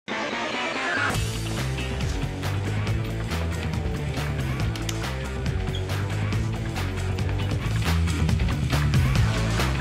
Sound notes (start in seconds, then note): 0.2 energetic music; 4.7 boy claps hands; 5.9 energetic music continues